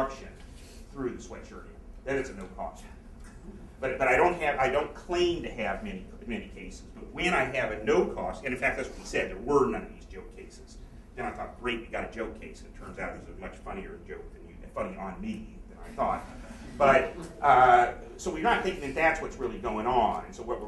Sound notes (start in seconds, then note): 16.3 laughter